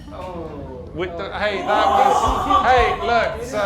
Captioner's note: everyone groans